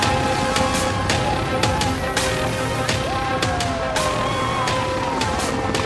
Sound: helicopter whirring

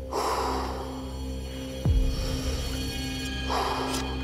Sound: breathing heavily

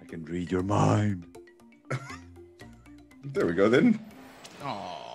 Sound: laugh

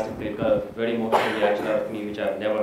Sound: laughter

